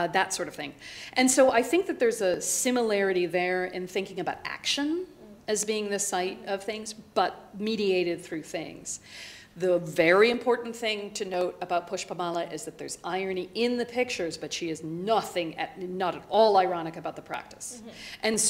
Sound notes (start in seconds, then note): none